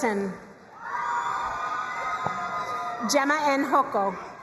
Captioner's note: crowd cheering and applauding